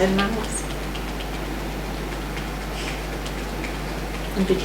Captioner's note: tapping